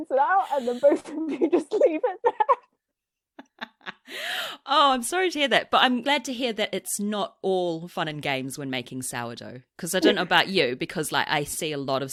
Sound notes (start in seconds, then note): 0.4 laughs